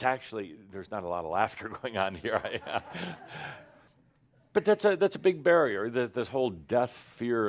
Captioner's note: now some laughter and Adamus chuckles